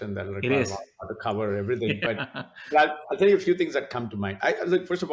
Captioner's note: both laughs